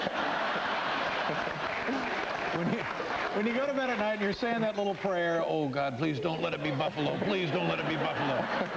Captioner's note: laughter